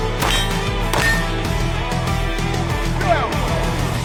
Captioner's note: targets pinging